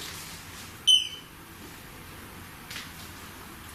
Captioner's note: beep